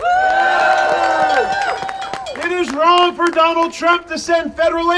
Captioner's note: audience cheering